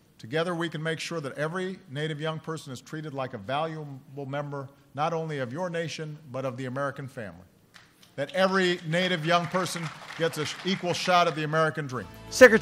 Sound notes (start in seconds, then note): 8.6 applause